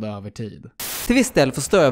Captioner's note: white noise